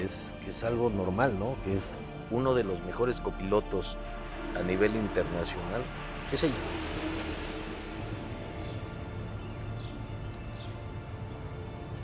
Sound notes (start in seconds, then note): 6.9 music fades away; 9.1 birds chirping